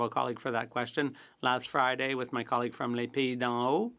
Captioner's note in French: voix de l'interprète